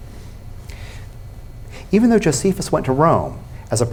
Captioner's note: none